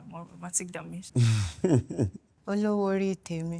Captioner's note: laughing